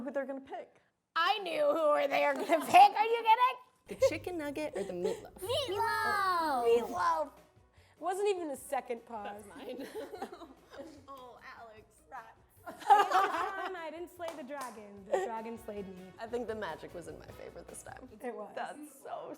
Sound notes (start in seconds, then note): 12.7 laughing